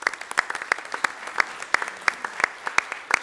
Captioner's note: applause